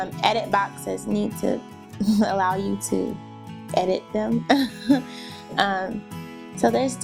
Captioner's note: laughing